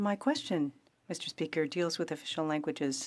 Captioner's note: speaking French